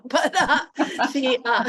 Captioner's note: laughter